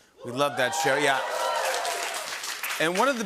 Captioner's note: cheers and applause